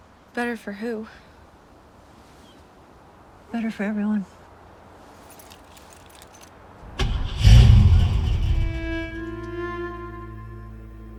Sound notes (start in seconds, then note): 6.9 engine starts; 8.6 melancholy music playing